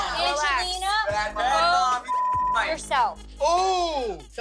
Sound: beep

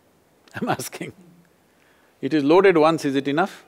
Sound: laughs

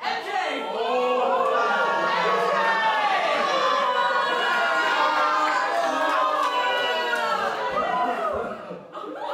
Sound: audience oohs; laughter

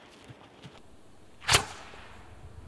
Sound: whoosh!

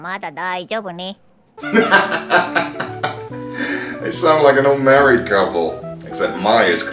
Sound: laughs

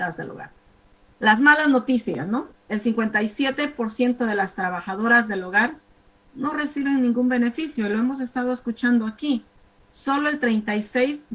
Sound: speaking spanish

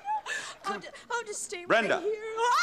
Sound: yells

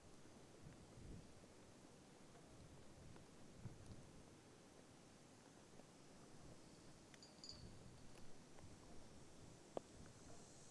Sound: sounds of nature

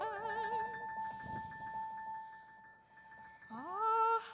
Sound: air whooshing

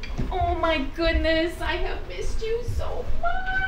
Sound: none

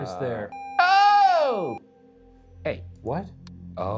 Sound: video game screen beeping; yells

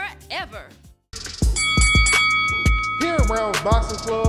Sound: upbeat music; bell dinging

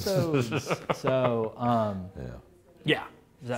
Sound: laughs

